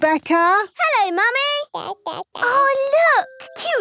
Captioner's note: babbling